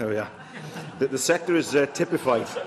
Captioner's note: laughter